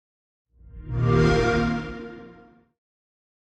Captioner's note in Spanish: sonido de xbox